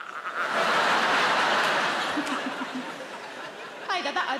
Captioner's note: audience laughing